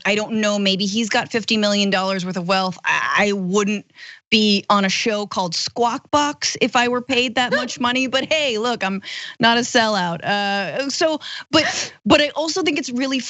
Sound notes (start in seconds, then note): 7.5 laugh